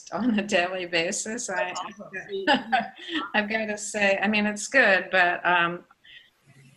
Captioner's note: laughing